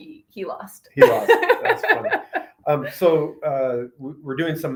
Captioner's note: laughs happily